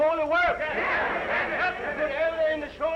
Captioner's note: all chattering